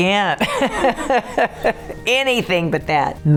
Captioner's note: laughing